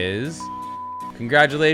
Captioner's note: beep